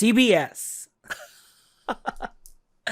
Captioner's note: laughs